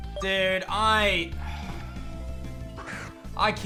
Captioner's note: sighs